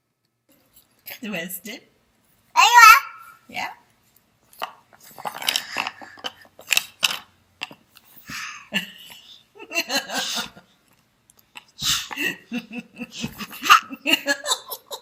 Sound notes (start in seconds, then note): 2.5 baby chattering; 9.6 laughter